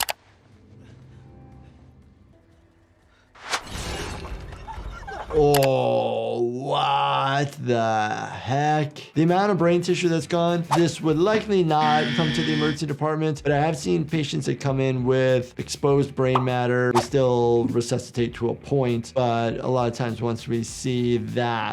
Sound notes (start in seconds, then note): 0.0 graphics clicking; 0.0 soft suspenseful music; 3.4 graphics swishing; 3.7 suspenseful music intensifies; 5.4 actress groaning; 5.5 graphics clicking; 9.9 soft music; 10.6 graphics swishing; 11.7 buzzer music; 16.3 graphics popping; 16.9 graphics swishing